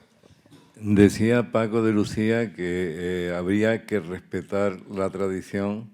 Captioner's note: speaking in Spanish